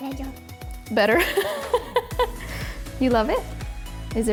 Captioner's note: laughs